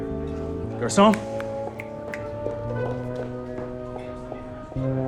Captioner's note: snapping fingers